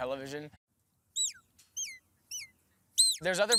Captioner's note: whistling